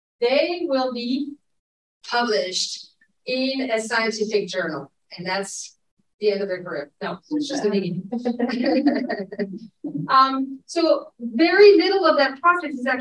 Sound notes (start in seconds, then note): 8.2 audience members chuckling